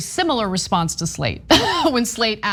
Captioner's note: laugh